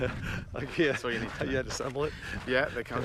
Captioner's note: laughs